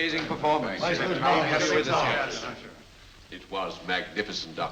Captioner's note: all congratulating